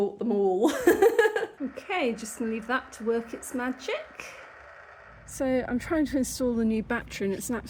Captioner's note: laughing